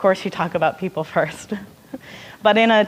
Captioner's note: laughing